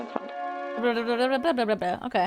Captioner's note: humming